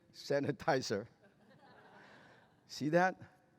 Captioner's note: laughter